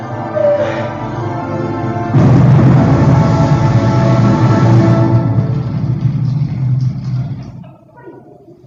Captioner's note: explosion in the tree